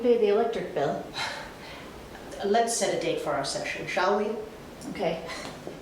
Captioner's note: laughs